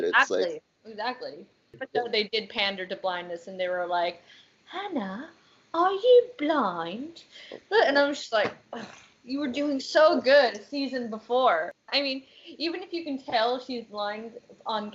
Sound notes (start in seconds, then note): 4.2 in British accent